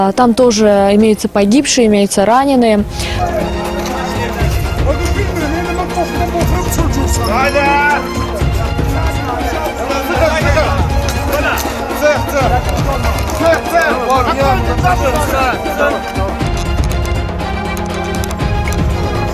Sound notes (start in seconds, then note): 3.2 dramatic music; 3.2 speaking Azerbaijani